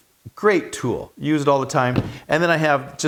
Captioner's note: metal thudding